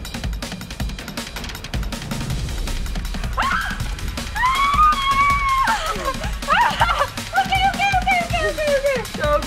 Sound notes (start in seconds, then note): 4.2 mom screams